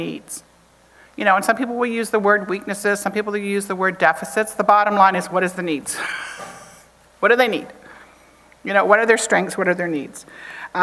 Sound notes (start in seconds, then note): 5.9 chuckles